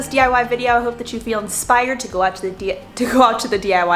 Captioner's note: laughs